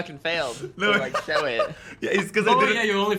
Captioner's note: laughs